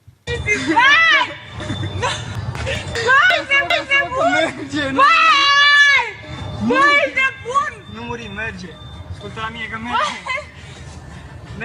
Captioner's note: people shouting in foreign language